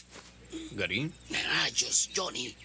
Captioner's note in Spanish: Gary suspira